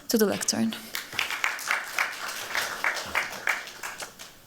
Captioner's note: applause